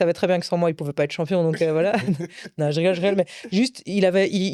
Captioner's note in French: rires